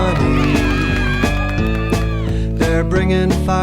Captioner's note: cheers